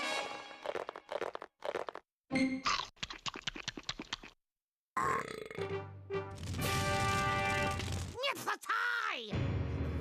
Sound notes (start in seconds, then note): 4.9 belching